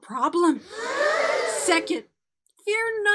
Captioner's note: children gasping